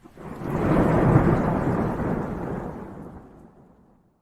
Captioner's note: lightning crashes